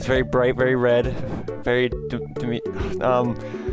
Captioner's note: sigh